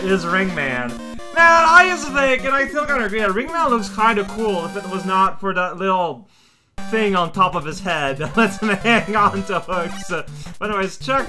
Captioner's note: starts laughing